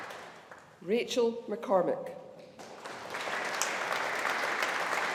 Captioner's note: audience applauding